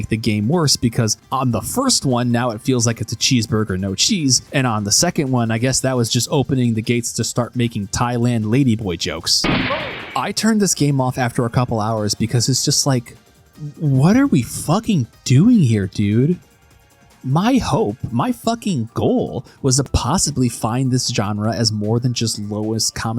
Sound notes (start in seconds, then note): 9.4 gunshot